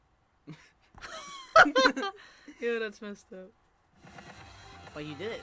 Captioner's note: low key laugh; laughs; wheeze into laugh